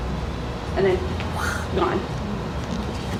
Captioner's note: imitates whirring